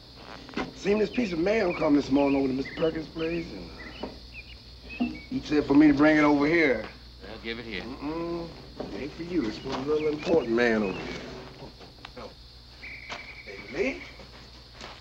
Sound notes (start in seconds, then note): none